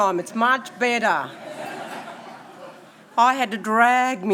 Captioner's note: audience laughing